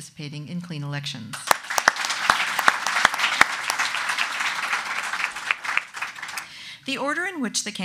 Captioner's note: audience clapping